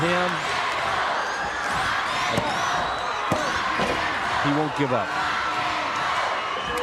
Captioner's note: crowd cheering